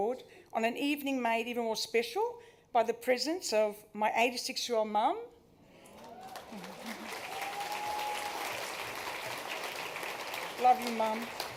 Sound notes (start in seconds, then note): 5.8 cheering, applause